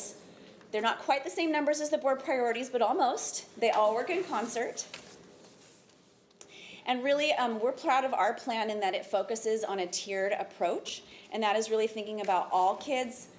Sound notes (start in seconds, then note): none